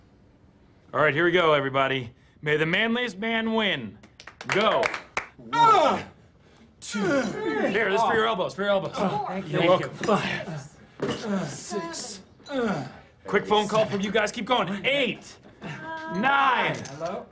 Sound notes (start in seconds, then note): 4.0 applause; 6.8 grunts